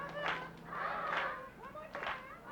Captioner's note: clapping